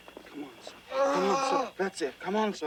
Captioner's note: Tater moaning